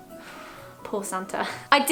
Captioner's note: exhales